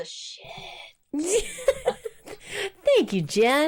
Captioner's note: both laugh